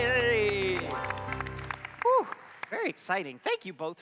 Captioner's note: applause